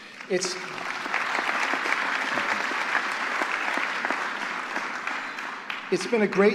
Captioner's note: applause